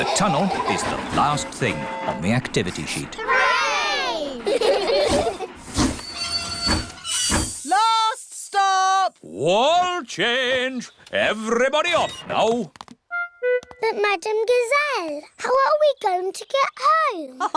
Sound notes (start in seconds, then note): 3.2 laugh; 5.3 train chugs